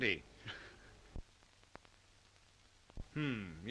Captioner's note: student chuckles